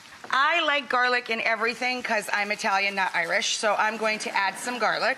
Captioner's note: none